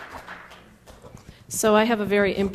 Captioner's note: applause